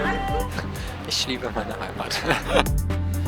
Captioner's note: laughing; dynamic music